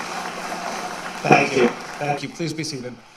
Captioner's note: applause